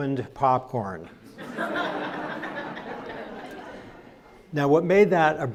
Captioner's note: crowd laughs